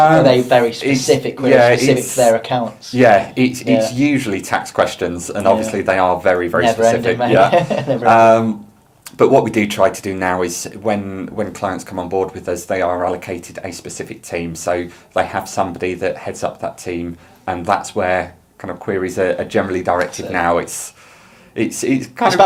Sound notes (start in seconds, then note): 6.8 laughs